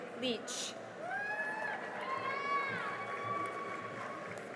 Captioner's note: cheering and applause